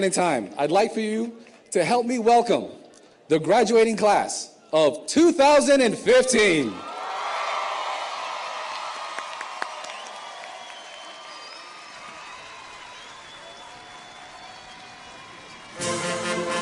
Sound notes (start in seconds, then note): 7.1 audience cheers